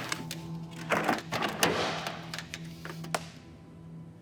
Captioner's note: washing machine sounds